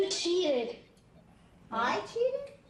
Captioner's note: voiceover